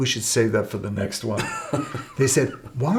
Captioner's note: chuckles